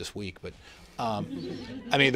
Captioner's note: laughter